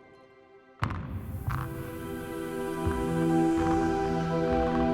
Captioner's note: dice thudding